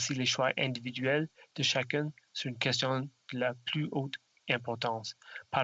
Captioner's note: speaking French